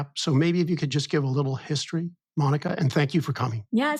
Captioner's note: none